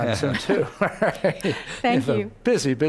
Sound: laughing

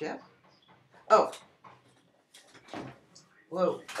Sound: Knocking

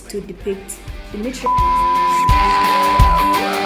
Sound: beep

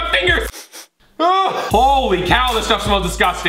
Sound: disgusted sound; sniffing sound

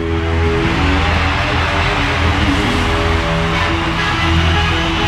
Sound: audience cheering

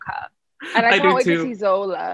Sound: laughing

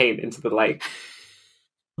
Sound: laughs

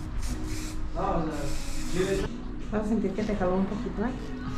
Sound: spray misting

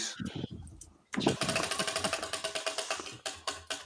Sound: wheel ticking

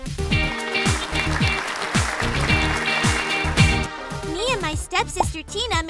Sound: upbeat music; applause

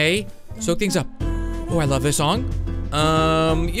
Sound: chill woman humming

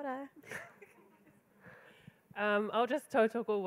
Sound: attendee giggling

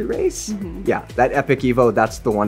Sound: making sounds of agreement

